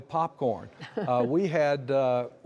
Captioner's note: laughter